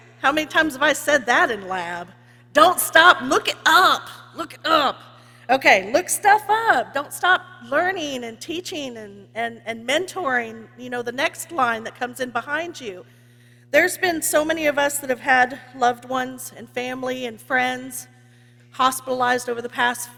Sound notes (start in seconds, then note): none